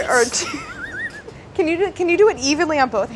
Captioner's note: laughing